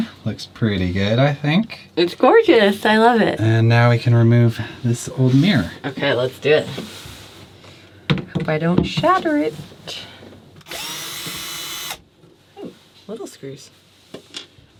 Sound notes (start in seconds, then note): 10.6 drill whirs